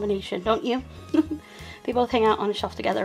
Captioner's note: laughing